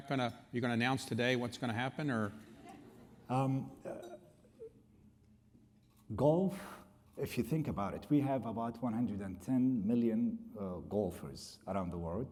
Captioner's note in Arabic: يضحك